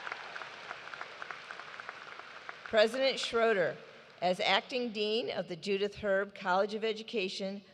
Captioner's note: cheers and applause